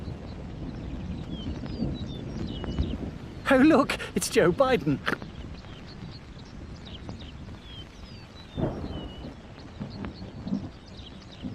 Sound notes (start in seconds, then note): 3.9 Johnny snorting; 8.5 thunder rumbling